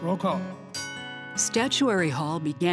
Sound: bell rings

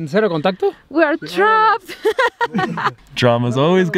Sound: speaks foreign language; laughing

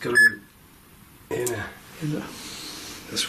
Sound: beep

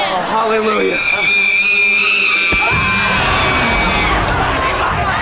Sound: screaming

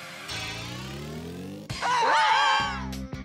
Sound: screaming

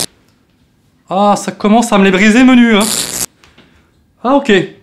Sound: shocking noise

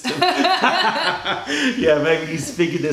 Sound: laughter

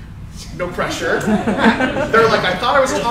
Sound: crowd laughs

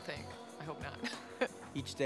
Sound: laughs

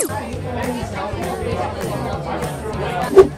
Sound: chatting

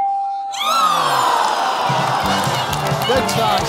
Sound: audience groans

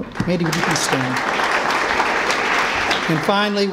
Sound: applause

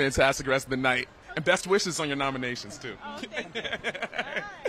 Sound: laughs

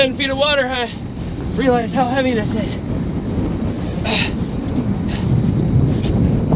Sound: groaning

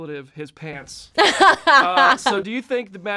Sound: Brie laughing

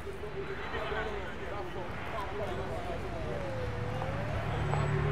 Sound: people chattering indistinctly

